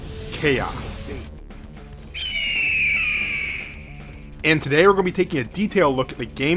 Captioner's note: hawk Sounds